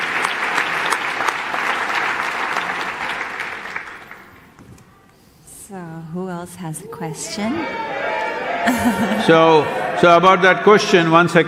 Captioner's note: laughter/Applause